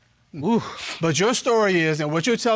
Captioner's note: sighs